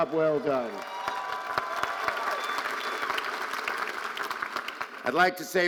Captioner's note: audience cheering and applauding